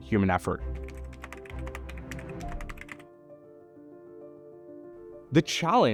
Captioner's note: gentle music continues; keyboard clicking